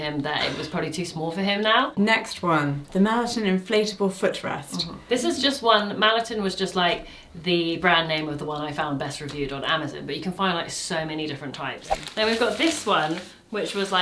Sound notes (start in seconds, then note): 11.9 screen whooshing